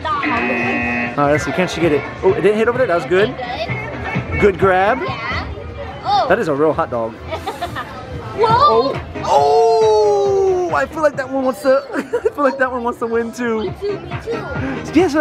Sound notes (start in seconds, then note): 7.3 laughing